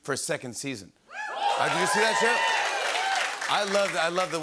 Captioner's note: cheering and applause